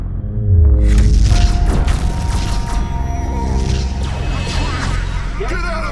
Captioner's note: loud explosion; lasers firing